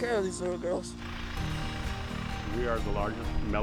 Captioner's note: tractor engine